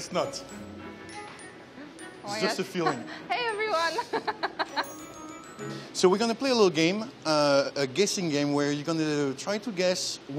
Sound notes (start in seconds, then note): 3.8 laughs